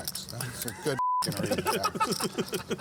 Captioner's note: beep; laughter